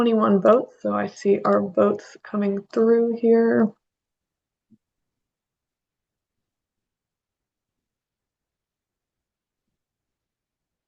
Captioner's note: pause